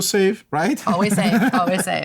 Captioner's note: laughter